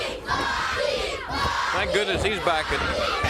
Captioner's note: crowd cheering